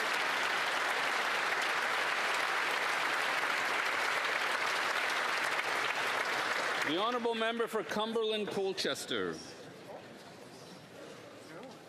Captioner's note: applause